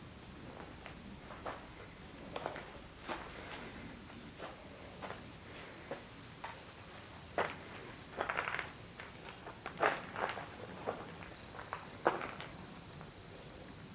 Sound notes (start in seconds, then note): none